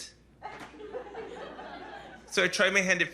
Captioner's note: laughter